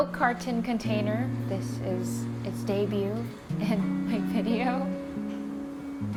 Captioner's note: chuckles